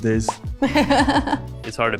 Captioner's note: laughs